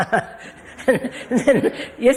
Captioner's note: laughs